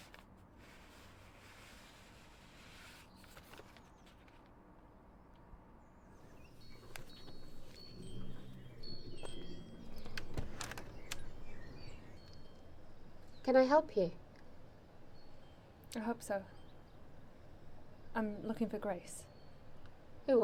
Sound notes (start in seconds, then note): 6.5 birds continue chirping; 6.5 wind chimes jingling; 10.7 door clicks open